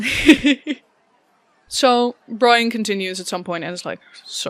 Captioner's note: laughs